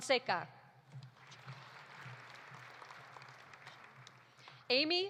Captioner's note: audience applauding